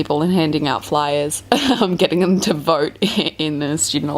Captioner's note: laughs